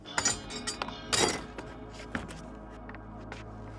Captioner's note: tools clanking